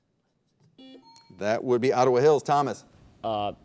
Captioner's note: buzzer beeping